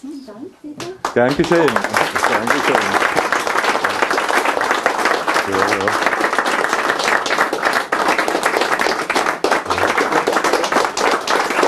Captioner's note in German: Applaus